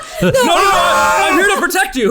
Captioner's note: laughter; mimics screams